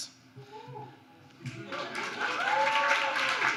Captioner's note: applause